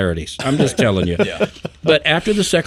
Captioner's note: person laughing